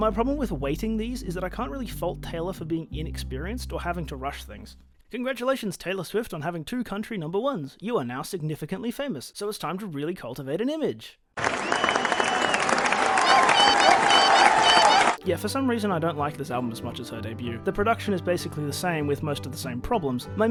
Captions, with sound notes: My problem with weighting these is that I can't fault Taylor for being inexperienced or having to rush things. Congratulations Taylor Swift on having two Country Number Ones! You are now significantly famous, so it's time to really cultivate an image! *wild applause* *tbh/autism creature saying "yippee!" over and over" Yeah for some reason I don't like this album as much as her debut. The production is basically the same with most of the same problems.